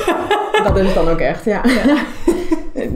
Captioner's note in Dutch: Lachen